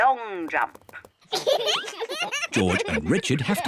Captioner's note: both laugh